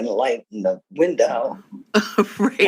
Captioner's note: laughter